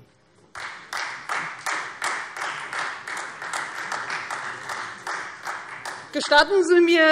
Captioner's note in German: Beifall Freie Demokraten